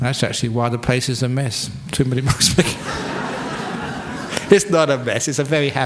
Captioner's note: laughter